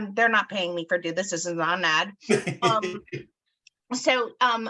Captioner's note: laughs